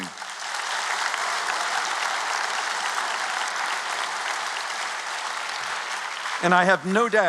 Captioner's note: applause